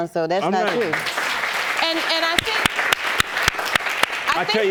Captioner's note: audience claps